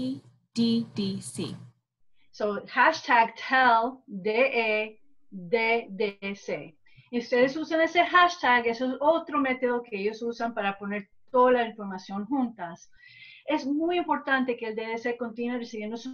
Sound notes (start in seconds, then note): 2.3 gives summarization in spanish